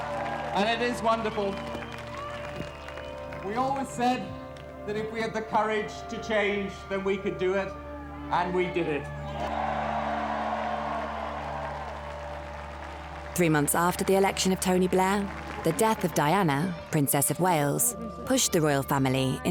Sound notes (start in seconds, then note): 9.8 crowd cheers